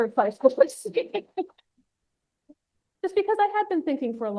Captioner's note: laughs